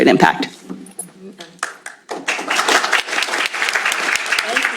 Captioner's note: applause